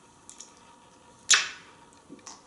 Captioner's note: smooch